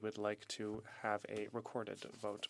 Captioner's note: speaking French